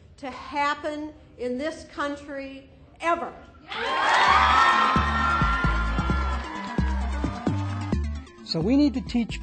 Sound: cheering

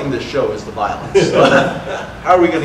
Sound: audience laughter

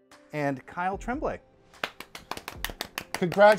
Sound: clapping

